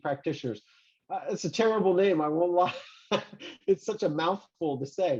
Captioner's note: chuckles